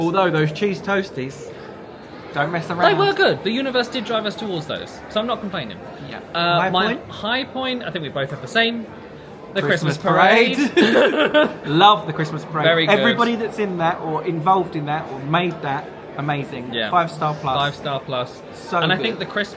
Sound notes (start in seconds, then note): 10.4 laughing